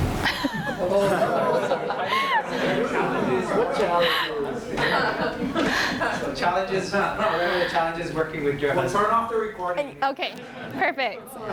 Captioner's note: audience Laughter